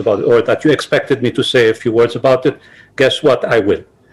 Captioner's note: non-english speech